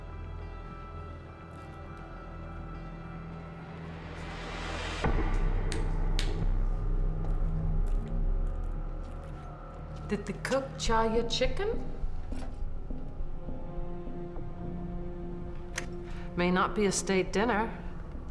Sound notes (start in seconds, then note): 6.1 snaps fingers